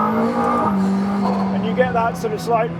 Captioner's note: engine revving